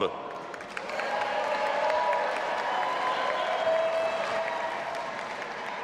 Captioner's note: audience applauding and cheering